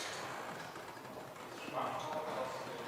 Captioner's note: background conversations